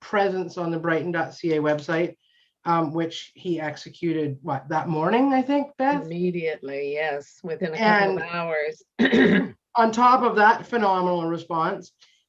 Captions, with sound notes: presence on the brighton.ca website, which he executed what that morning I think Beth? - Immediately, yes, within a couple hours (clears throat). - On top of that phenomenal response,